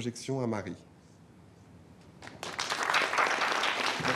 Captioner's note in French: Applaudissements